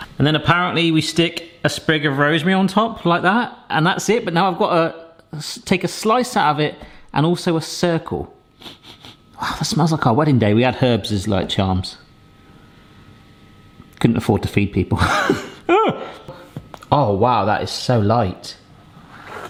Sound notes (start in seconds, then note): 8.6 nose sniffing; 15.0 laughs